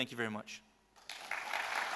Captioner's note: applause